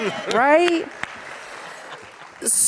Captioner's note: audience applauds